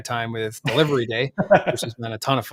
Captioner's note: laughs